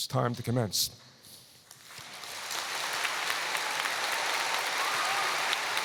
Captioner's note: applause